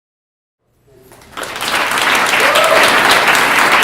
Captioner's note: applause